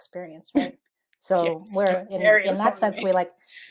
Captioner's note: laughs